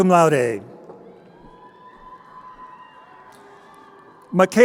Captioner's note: crowd cheering